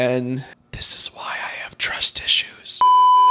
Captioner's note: whispering